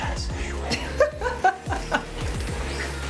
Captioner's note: laughing